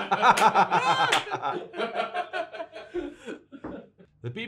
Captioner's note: laughing Оut Loud